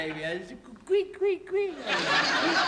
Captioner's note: imitates baby sounds; laughter